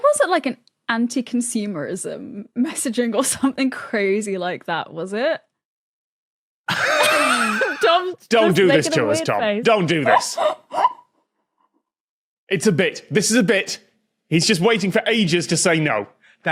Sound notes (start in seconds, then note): 6.7 guests wheezing